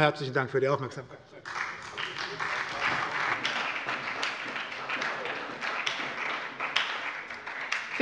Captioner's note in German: Beifall bei der SPD sowie bei Abgeordneten der CDU und der LINKEN